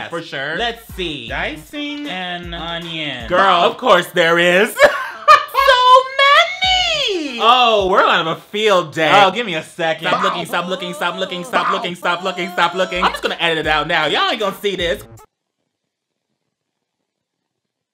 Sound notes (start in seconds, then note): 4.7 laughs